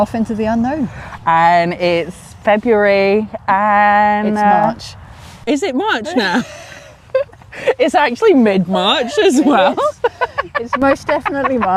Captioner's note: giggles